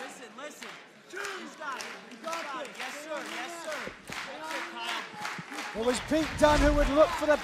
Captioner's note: crowd chatter